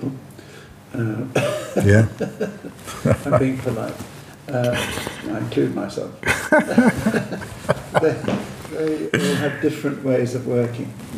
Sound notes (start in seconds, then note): 6.2 laughing